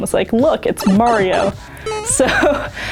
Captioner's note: Mario sound effects; laughing